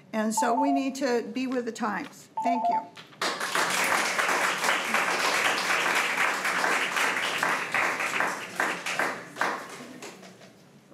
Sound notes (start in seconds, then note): 3.0 crowd clapping